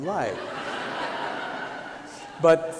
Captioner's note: laughter